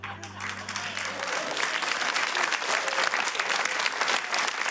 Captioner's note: applause